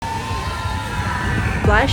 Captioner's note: screams